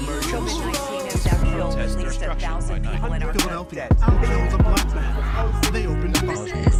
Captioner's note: reporters consecutively chattering